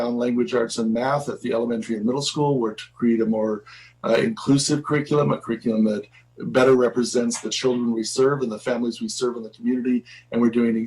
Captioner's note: spanish